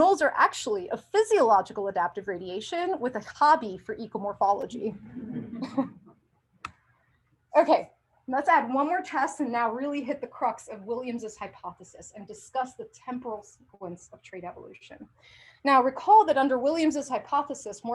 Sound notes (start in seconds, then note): 5.0 laughter